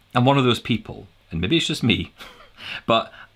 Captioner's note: laughs